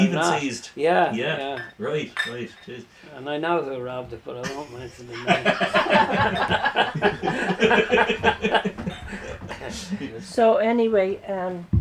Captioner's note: laughter